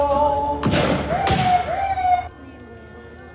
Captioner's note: gun shooting; siren blaring; gentle music